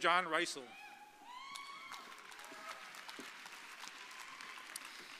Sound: audience cheering

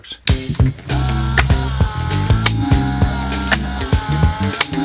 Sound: lively music; motor whirring

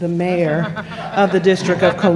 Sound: laughter

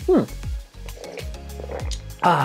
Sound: gulps

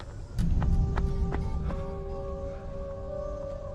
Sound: footsteps Slow

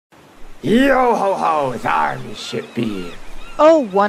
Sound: seagulls and waves crashing

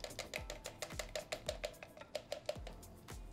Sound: paint pouring; upbeat music

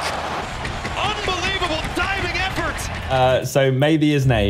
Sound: crowd cheering

